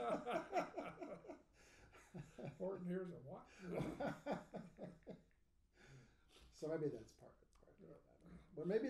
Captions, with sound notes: (laughing) (speaking faintly) So maybe that's part of the problem. I don't know.